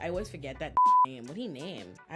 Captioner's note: beep